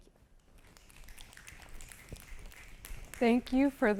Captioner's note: applause